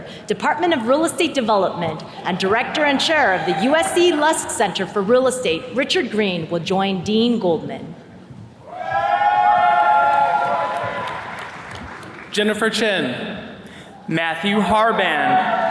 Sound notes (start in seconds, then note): 8.6 attendees cheers and claps